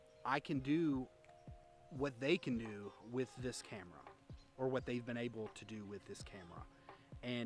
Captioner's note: none